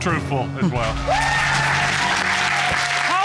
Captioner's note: cheers and applause